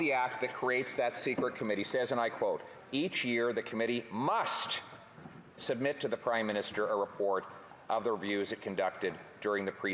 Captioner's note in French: voix de l'interprète